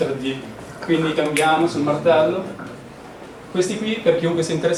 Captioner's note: snap